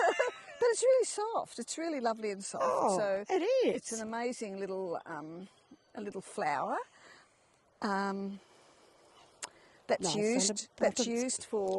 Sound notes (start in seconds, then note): 9.2 birds chirping